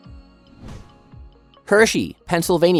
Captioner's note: bright music continues; air whooshing